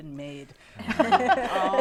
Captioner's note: laughter